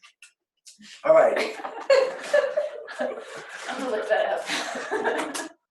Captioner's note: laughs